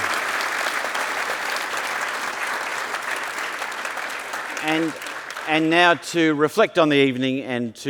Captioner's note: applause